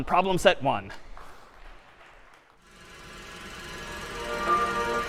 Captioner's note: applause